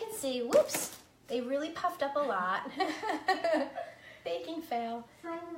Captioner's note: laughing